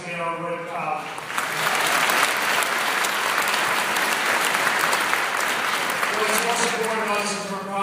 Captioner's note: applause